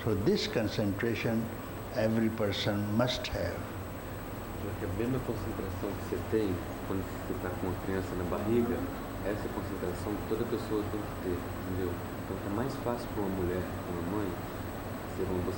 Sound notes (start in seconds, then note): 4.8 speaks Portuguese